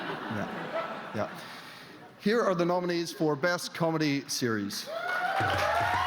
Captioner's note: laughter